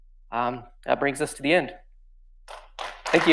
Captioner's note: audience clapping